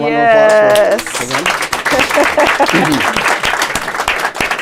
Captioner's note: applause